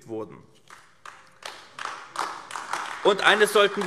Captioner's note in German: Beifall AfD